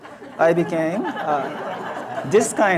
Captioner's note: audience laughs